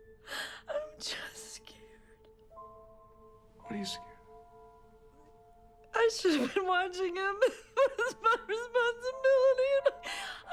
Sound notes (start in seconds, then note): 3.0 sobs; 7.3 crying